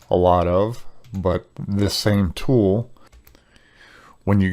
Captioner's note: keyboard clacking